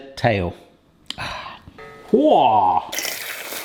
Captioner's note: sighs